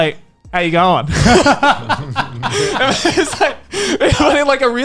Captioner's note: laughing